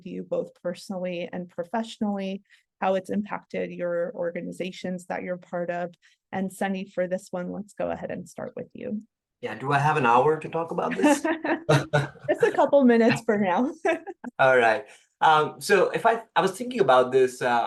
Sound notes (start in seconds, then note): 10.9 laugh; 13.8 laugh